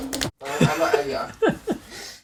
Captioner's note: narrator laughing